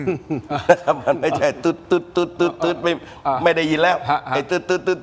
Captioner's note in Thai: เสียงหัวเราะ